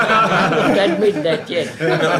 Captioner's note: laughter